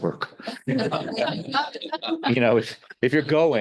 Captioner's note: all laughing